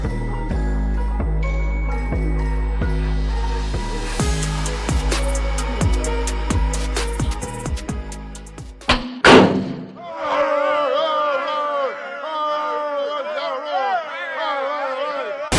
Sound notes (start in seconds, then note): 8.8 steel clanging; 10.0 men shouting